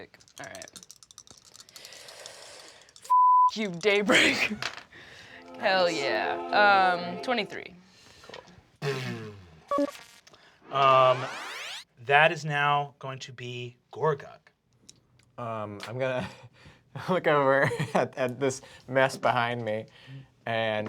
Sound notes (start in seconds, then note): 4.5 rolls dice; 8.3 buzzes